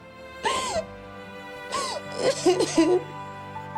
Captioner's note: crying